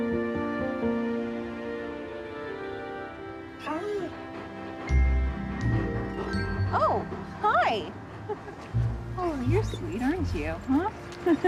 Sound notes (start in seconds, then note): 3.5 dog panting; 11.2 chuckling